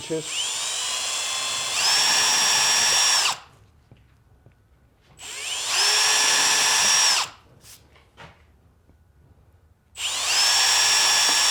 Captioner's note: drill noises